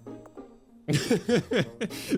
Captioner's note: laughs